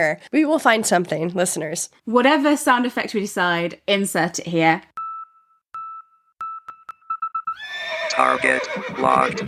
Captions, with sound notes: We will find something, listeners. - Whatever sound effect we decide, insert it here. (beeping) (faster beeping) (horse neighing) - Target locked.